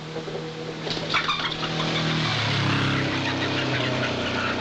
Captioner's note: motorcycle rumbling